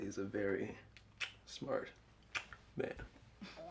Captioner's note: smack